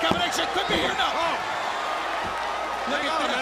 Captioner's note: crowd chatter